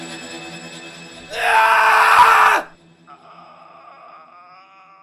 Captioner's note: man screaming